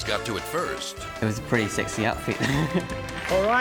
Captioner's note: laughs